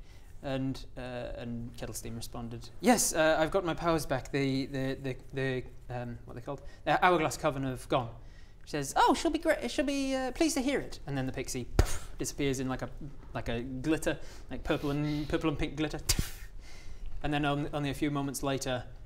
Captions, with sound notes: and...and Kettlesteam responded Yes! I've got my powers back, they the...the um what they called? Hourglass coven have gone she says oh she'll be grate- she'll be pleased to hear it and then the pixie *poof* disappears in like a like a glitter purple and pink glitter *poof!* and then only a few moments later